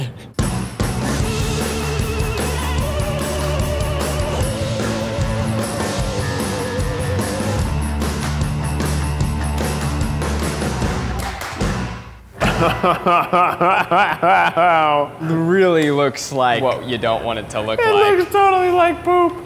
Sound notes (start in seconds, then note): 0.2 upbeat music; 12.4 laughing